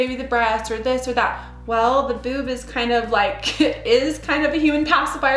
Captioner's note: chuckles